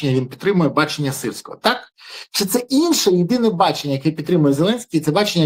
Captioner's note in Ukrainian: сопіння